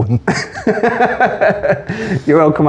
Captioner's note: laughing